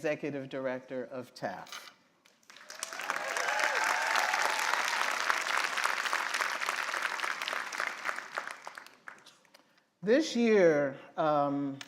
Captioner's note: applause